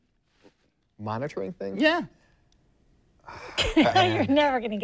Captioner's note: laughing